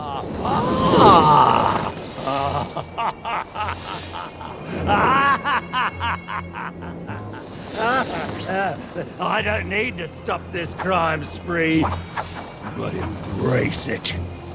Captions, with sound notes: [Laughing] I don't need to stop this crime spree. But embrace it.